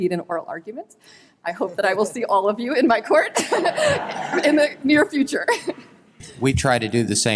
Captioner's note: laughter